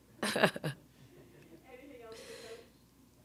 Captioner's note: laughing